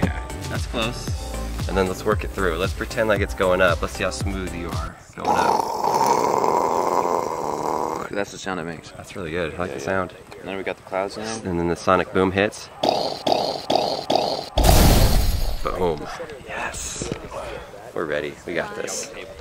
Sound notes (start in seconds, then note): 5.9 imitating rocket sound; 14.5 explosion sound